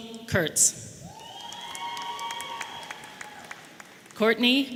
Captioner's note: audience applauding